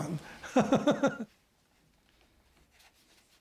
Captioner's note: laughs